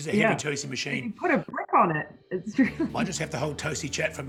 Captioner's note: laughing